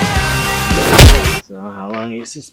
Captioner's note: punch